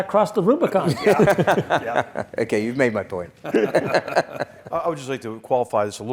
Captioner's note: laugh